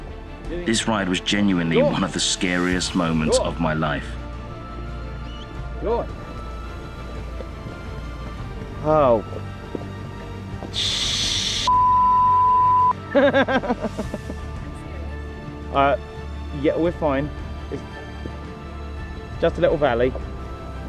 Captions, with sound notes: this ride was genuinely one of the scariest moments of my life. Go on. Oh *beeeep* *Nervous laughter* I'm scared. Er yeah, we're fine. Just a little Valley